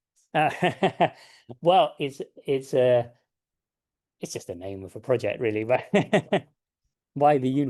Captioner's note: laughs